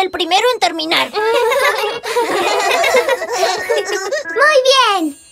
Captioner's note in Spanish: Risas